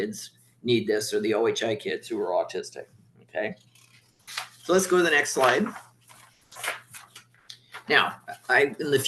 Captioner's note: papers shuffling